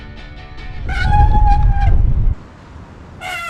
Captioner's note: breaks Squeak